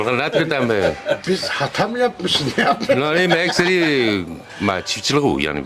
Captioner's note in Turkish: kahkaha